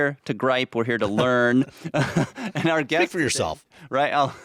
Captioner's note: chuckling